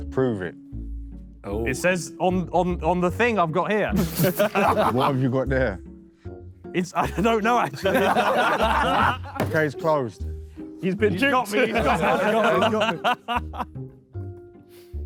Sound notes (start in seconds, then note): 8.4 Sidemen laugh